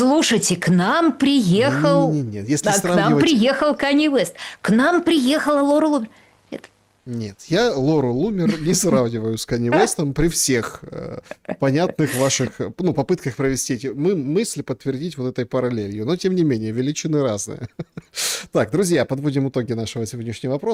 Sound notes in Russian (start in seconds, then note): 17.5 смех